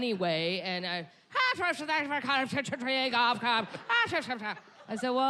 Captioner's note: mimicking Irish accent